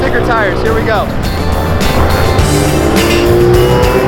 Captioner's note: engine roars; upbeat rock music